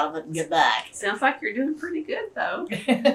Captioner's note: laughter